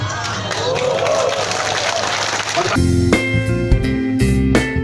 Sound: jama'ah cheering

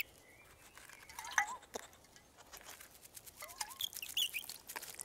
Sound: water sloshing

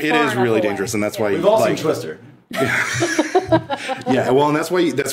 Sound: all laughing

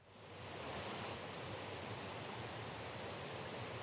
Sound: high wind, clatter or river

